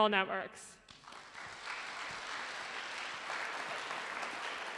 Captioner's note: applause